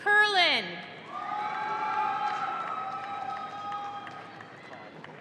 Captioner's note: audience cheering